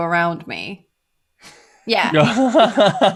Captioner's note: laughter